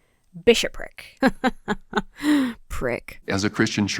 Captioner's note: laughs sarcastically